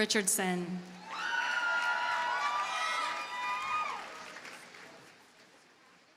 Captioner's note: audience cheers and applauds